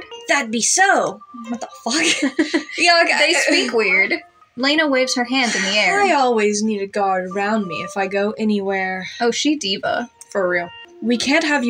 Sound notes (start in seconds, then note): 1.9 chuckle; 1.9 laugh